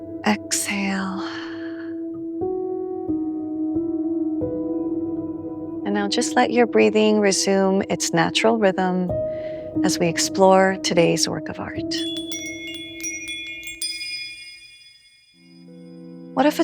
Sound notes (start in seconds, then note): 11.9 bells chime; 13.6 slow music plays